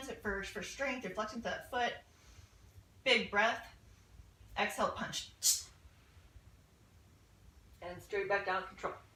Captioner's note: short, powerful audible exhale